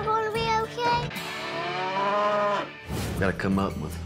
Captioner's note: mooing